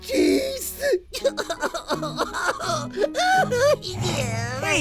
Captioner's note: sobbing